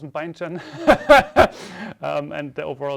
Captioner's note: laughs